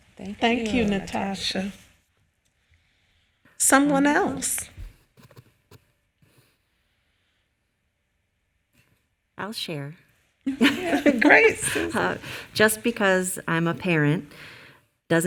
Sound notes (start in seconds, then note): 10.4 laughing